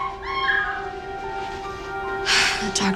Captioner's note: girl screams